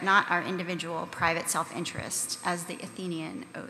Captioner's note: none